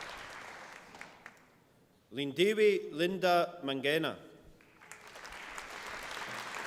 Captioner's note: applause